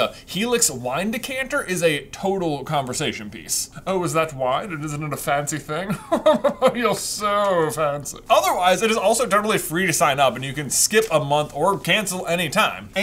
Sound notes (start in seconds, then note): 5.9 posh laughter